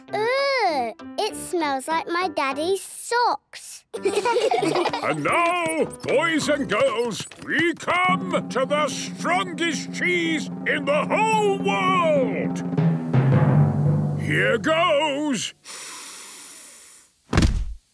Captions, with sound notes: - Ugh! It smells like my daddy's socks! - And now, boys and girls, we come to the strongest cheese in the whole world! - (dramatic drumming music) - Here goes... (sniffs)